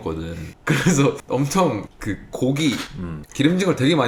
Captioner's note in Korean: 웃음